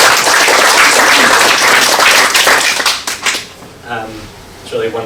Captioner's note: applause